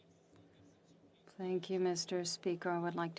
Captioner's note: speaking French